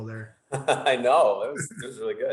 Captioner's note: chuckles